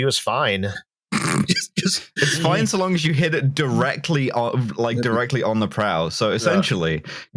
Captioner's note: snorts